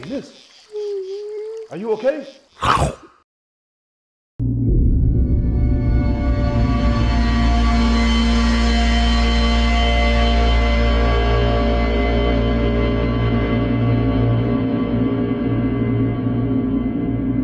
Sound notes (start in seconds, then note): 2.6 growls; 5.7 sinister music